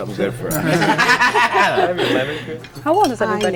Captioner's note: everyone laughs